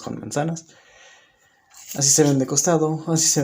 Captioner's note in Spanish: Silencio